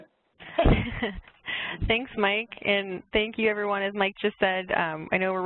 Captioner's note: laugh